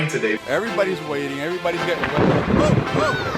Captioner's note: thunder